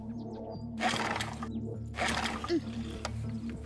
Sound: engine sputters

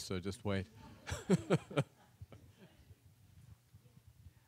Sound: audience laughs

